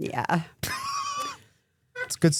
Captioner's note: CM Punk laughs